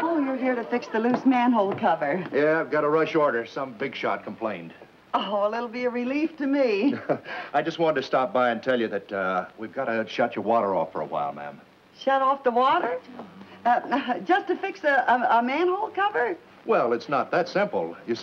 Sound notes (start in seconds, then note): 6.8 gentleman chuckles